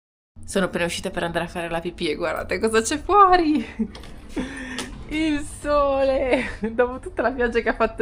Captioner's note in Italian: risate